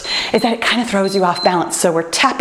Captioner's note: timer beeps